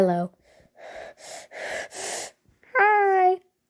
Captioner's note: intense breathing